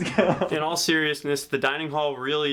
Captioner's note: laugh